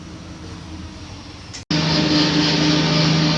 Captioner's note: machine sound